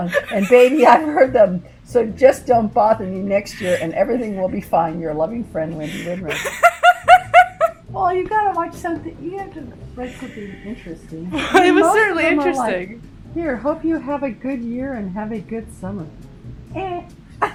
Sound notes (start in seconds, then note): 5.9 laughs